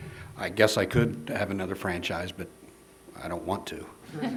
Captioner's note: laughter